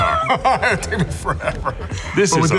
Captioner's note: laughs